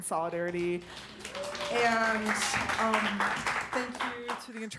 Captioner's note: applause